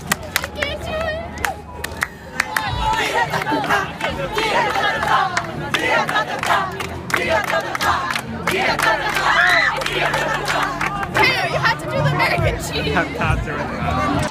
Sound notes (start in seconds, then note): 2.3 strange rhythmic chanting